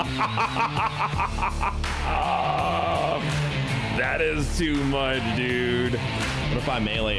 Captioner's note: screaming; laughter